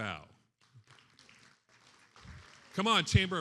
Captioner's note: attendees applauding